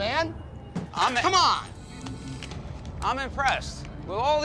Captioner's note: glass shatters